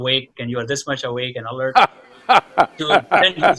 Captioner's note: Sadhguru laughs